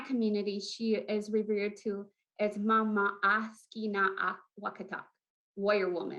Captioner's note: foreign language